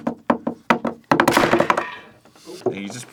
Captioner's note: carrot drumming; carrot snaps